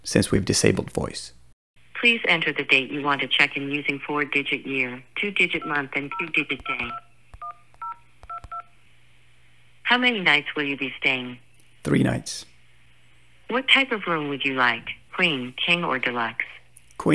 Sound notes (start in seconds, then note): 6.5 cellphone beeping